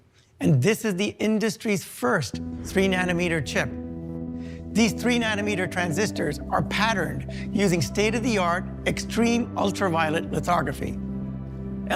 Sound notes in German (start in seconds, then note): none